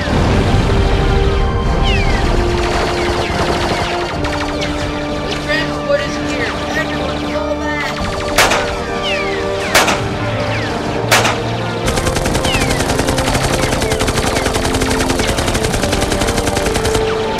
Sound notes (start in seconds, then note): 0.0 explosion, gunfire; 2.5 gunfire; 8.3 pistol shot; 11.0 pistol shot; 11.0 gunfire; 11.0 gunfire, rapid gunfire; 17.2 pistol shot